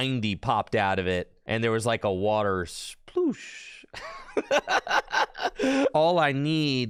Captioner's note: laughs in Mahone